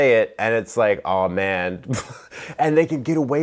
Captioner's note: laughs